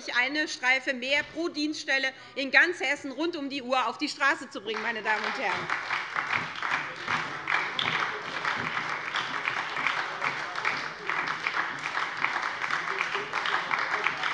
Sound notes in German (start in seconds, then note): 4.6 Beifall bei der SPD